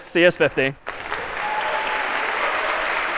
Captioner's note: applause